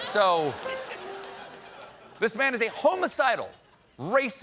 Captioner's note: laughter